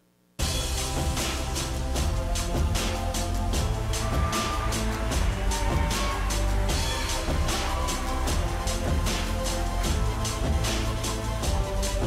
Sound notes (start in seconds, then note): 0.1 upbeat instrumental music; 3.7 audience cheering